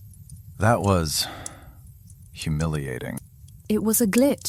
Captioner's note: sigh